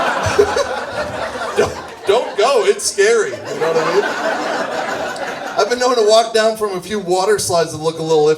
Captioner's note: audience laughs